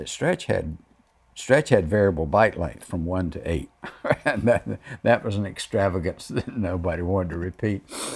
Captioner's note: laughs